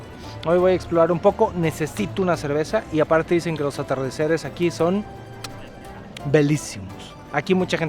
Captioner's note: Italian